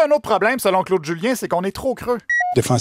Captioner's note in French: voix de Claude Julien